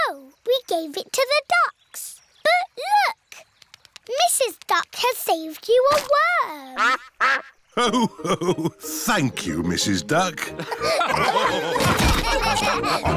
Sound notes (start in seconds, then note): 6.8 quacks; 10.4 laughter